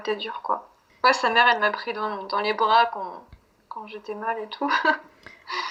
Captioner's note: laughs